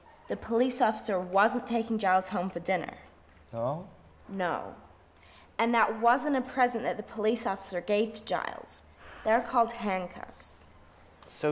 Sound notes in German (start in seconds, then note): none